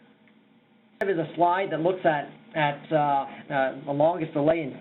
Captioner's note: audio breaks